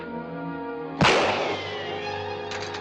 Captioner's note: gun fires